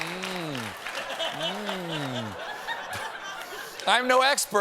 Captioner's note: laughter